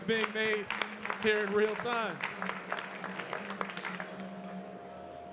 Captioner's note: audience clapping